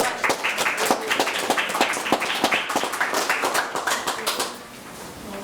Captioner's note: everyone applauding